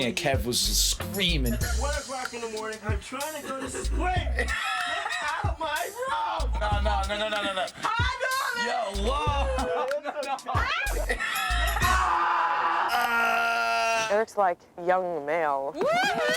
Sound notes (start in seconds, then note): 8.5 people hollering